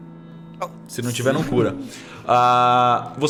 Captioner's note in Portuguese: risadas